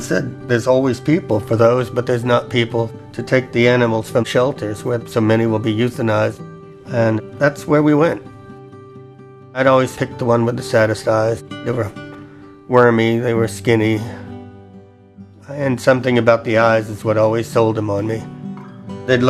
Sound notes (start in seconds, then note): none